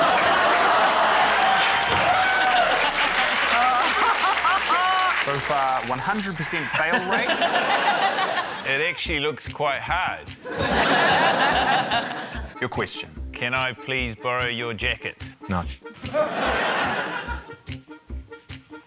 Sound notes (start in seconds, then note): 1.5 cheering, applause; 6.6 laughter; 10.4 laughter; 16.1 laughter